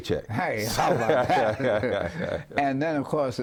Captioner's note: laughing